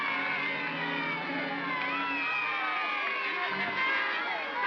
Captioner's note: mob cheering; ominous music; mob cheering; trumpets sounding